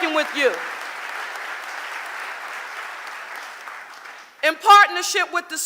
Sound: audience applauding

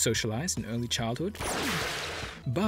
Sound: zap

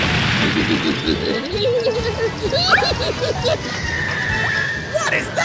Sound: insane laughter

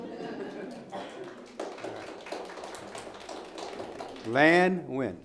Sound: audience applauding

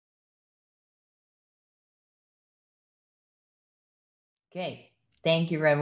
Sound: silence

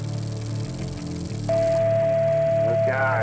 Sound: loud Beep

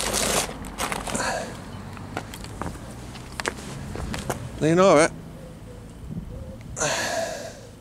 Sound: sighs; sighs

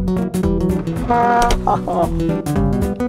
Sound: laughter

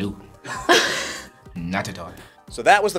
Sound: laugh

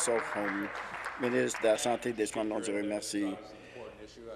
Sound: applause

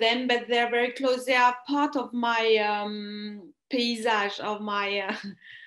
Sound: speaks french

